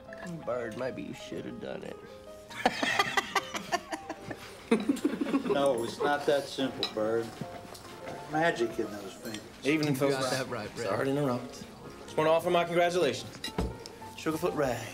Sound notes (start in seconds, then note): 2.5 laughs